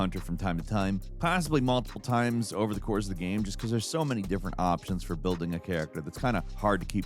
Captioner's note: none